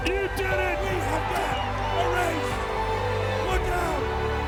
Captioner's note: crowd cheering